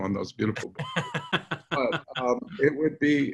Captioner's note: laughs